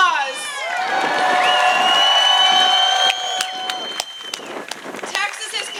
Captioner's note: applause